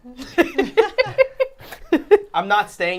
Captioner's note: all laughing